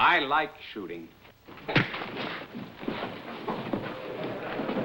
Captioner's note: thumps; chairs scraping, chattering